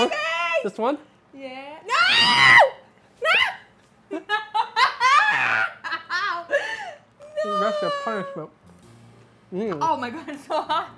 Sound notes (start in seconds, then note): 1.8 screaming; 4.2 laughing